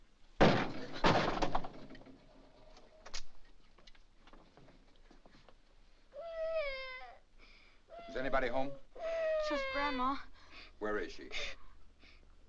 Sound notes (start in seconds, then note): 0.4 door bursts open; 6.1 child cries